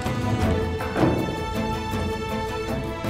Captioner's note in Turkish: Kapı kapanma sesi